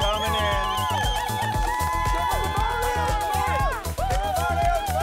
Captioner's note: all cheering